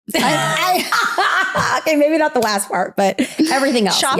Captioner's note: laughs